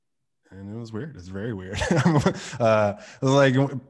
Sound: laughs

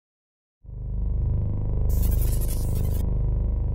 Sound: buzz

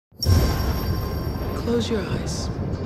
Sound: thunder

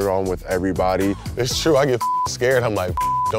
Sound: beep

